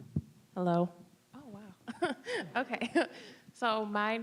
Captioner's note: laughing